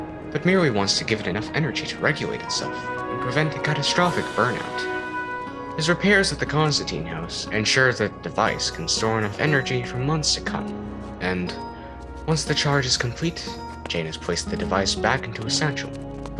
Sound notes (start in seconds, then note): 5.6 janus walking noises